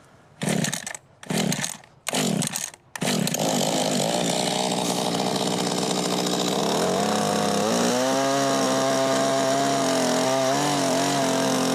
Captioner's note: small motor running